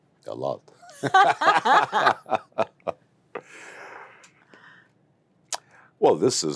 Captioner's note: laughs